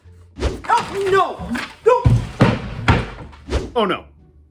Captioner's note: thud from falling